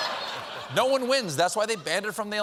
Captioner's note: laughter